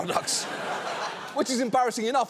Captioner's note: audience laughs